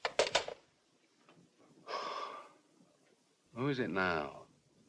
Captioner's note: sighs